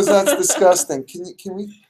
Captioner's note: laughing